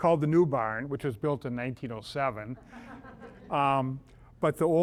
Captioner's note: audience laughs